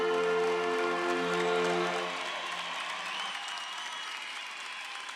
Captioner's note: audience cheering